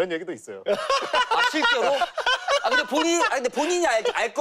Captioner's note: bursts laughing